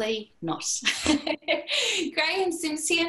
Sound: laughter

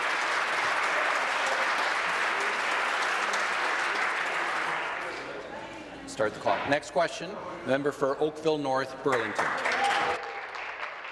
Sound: applause

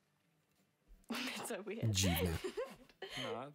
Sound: laughs loudly

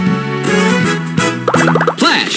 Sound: bubbles popped

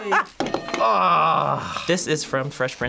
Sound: bell rings

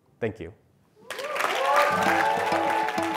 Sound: applause

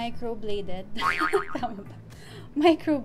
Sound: laughs

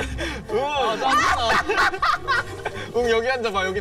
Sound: laughing to death

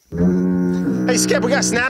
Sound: foghorn

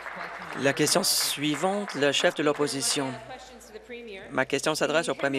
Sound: applause

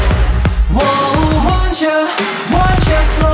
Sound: none

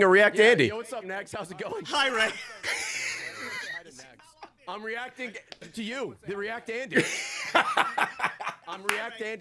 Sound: laughs

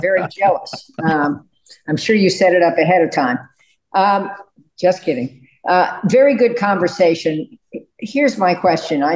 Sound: laughter

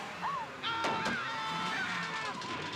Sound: Murray screaming

